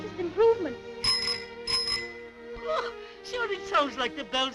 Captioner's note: ringing